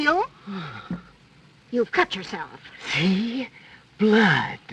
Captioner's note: gasps